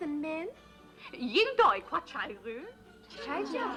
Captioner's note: asking question in Thai; agreeing in Thai